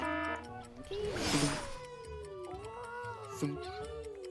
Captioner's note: buzzer; timer ticking